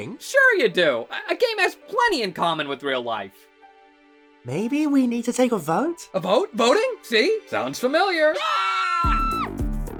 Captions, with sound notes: Sure you do! A-a game has plenty in common with real life! Maybe we need to take a vote? A vote? VOTING? SEE? Sounds familiar! [CROWD SCREAMS]